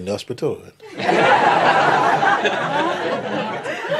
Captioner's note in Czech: smích